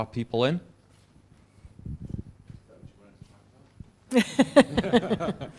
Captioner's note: laugh